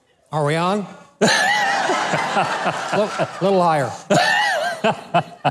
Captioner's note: crowd laughing